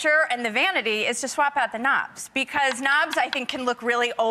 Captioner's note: none